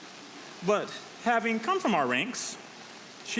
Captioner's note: none